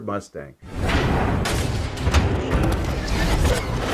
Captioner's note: bang